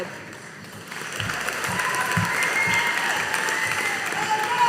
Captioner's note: audience applauding